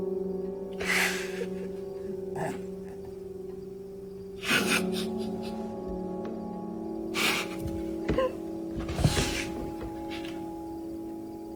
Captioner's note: June laughing